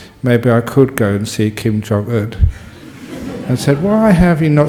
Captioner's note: laughter